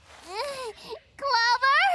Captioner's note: laughs